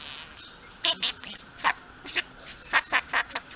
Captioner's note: laugh